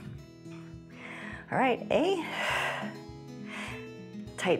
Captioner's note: exhales